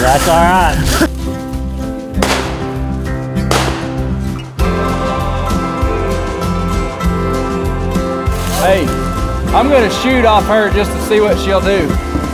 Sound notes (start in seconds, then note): 3.4 gunshot; 4.6 upbeat music